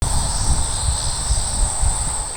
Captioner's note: cicadas singing